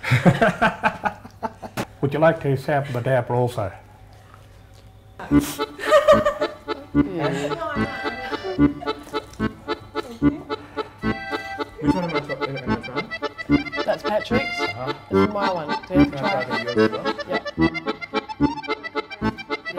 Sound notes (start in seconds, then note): 0.0 laughing; 5.3 chuckling; 7.8 instrumental folk music; 11.3 chattering